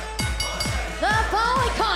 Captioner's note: bell ringing